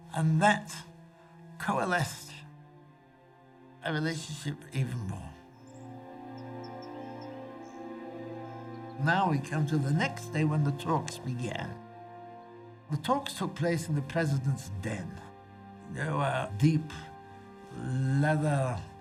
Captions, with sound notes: And that coalesced a relationship even more. (dramatic music) (birds chirping) Now we come to the next day when the talks began. The talks took place in the president's den. There were deep leather furniture